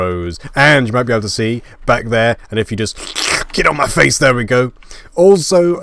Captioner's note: lick noise